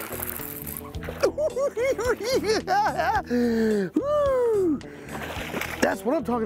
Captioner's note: cackling